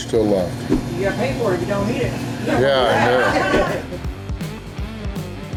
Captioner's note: crowd laughter